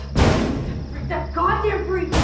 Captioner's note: mysterious knocking